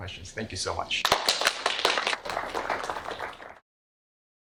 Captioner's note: applause